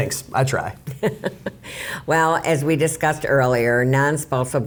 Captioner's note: laughs